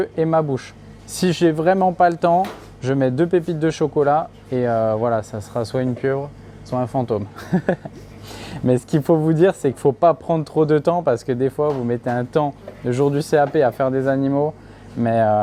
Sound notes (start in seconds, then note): 7.3 laughs